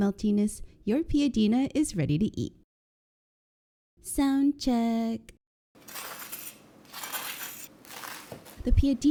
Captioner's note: heavenly crunches ensue